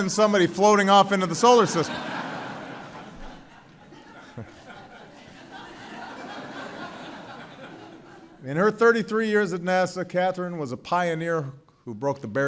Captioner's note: laughter; laughter